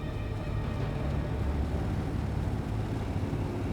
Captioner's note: motorcycles approaching